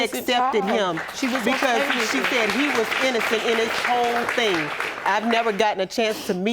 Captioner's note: audience applauding